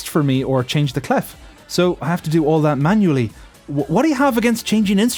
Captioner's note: none